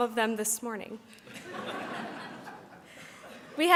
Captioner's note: audience laughs